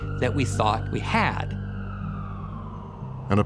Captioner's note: siren wailing